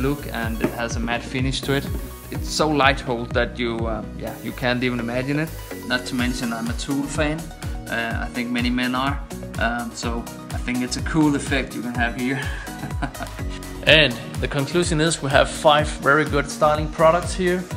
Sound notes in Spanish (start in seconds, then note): 12.6 risas